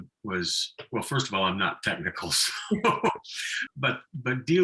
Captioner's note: laughing